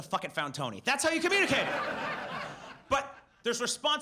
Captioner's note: audience laughs